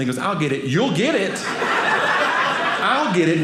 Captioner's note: audience laughing